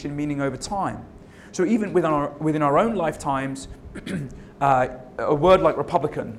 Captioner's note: cough